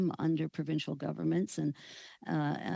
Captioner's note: speaking French